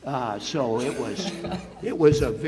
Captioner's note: audience laughs